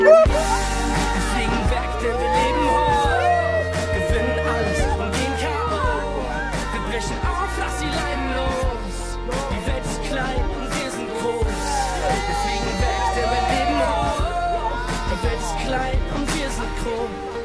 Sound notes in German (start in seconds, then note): 0.1 Erwartungsvolle Musik; 12.3 Jubel